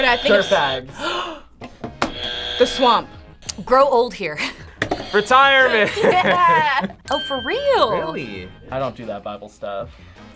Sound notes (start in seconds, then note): 0.0 buzzer rings; 0.9 gasps; 2.0 buzzer rings; 4.9 buzzer rings; 5.5 laughs; 5.6 both laugh